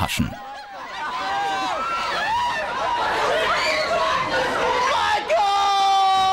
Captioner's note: applause, screams